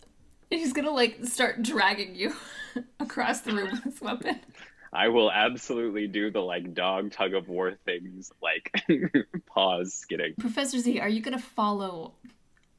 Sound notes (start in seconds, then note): 3.0 chuckles; 7.9 laughing